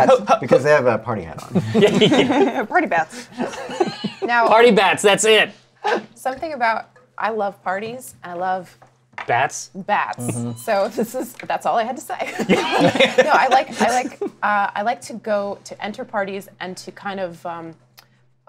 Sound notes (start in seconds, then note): 1.4 laughter; 12.2 laughter; 12.3 laughs